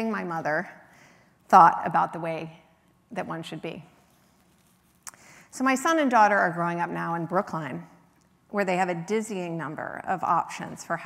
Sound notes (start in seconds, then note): none